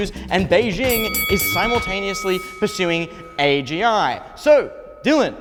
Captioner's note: bell rings